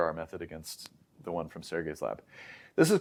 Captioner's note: inhales